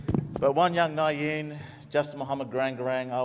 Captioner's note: speaks native language